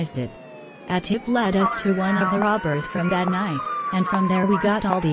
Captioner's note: walkie-talkie noise